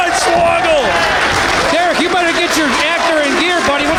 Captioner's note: audience applauding